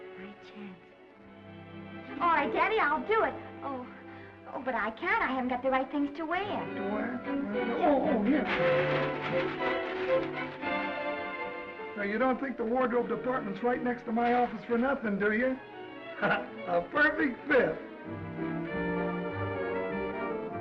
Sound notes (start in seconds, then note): 8.0 bag rustling; 9.4 upbeat music; 16.2 Danny laughs; 17.9 gentle music